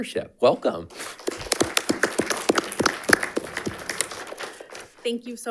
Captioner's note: audience applauding